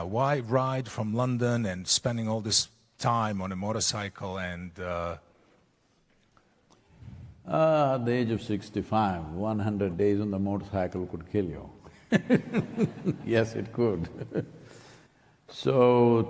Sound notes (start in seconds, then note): 12.0 laughs